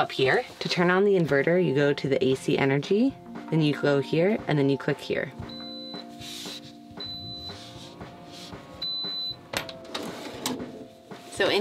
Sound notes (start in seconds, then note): 7.0 stove beeps